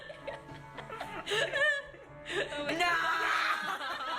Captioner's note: laughter